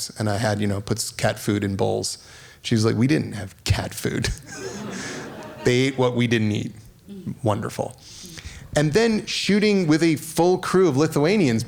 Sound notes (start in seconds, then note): 4.3 laughing